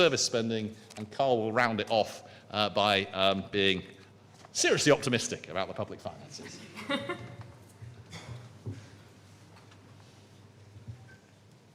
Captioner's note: laughter